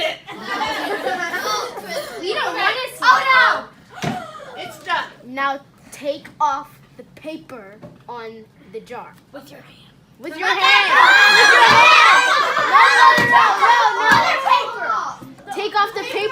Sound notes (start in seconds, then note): 0.0 laughter; 8.5 another student whispers .. with your hand; 12.2 laughter